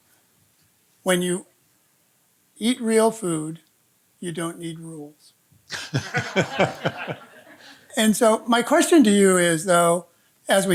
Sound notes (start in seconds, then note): 5.7 audience laughing